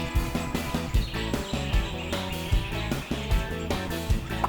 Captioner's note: birds chirping